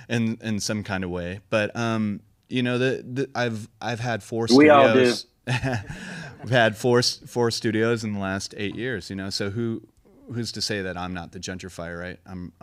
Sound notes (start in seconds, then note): 4.5 laughs